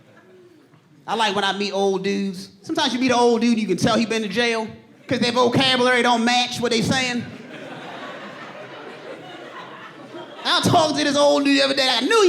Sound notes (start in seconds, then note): 2.6 audience laughing